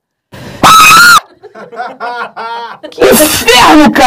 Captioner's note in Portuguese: risadas